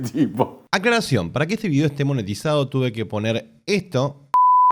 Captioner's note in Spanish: beep